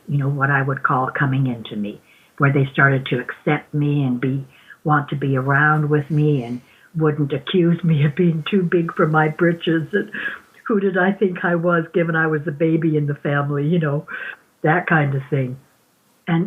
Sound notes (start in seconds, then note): 7.6 chuckling; 9.6 laughing